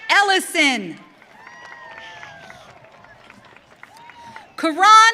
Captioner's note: audience cheering